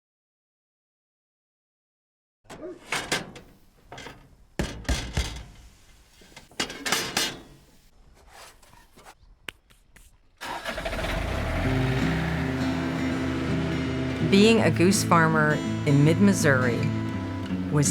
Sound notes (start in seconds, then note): 3.9 clanging; 11.3 relaxing music